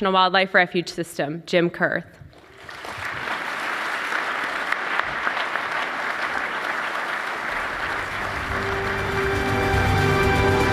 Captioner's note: applause